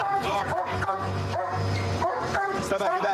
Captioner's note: barking